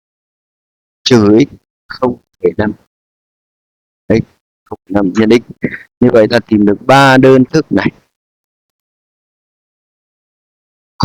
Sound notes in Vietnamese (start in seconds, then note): 5.6 hắng giọng